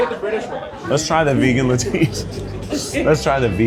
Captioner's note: laughing